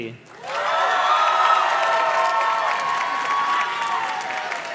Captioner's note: audience cheers and claps